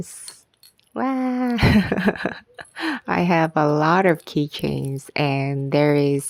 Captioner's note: laughs